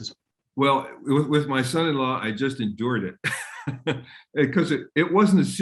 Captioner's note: laughs